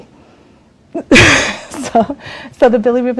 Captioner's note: laughs